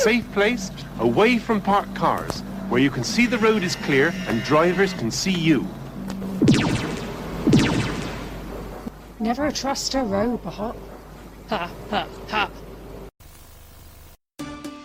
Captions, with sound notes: - A safe place, away from parked cars, where you can see the road is clear, and drivers can see you. [ZAP!] [ZAP!] - Never trust a robot! Ha! Ha! Ha!